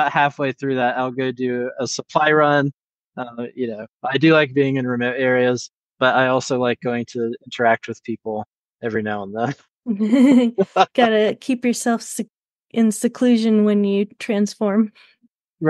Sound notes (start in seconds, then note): 10.2 chuckles